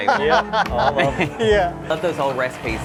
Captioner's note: people laughing